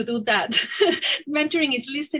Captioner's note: giggles